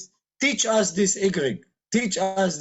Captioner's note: speaking in Iraqi